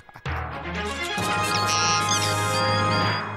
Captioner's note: laughs; robot beeps